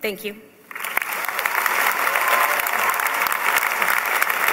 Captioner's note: applause